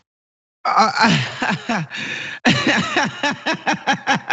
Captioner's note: laugh